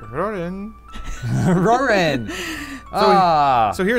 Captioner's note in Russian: смеется